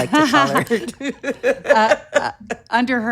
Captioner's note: both laughing